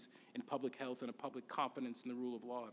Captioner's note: none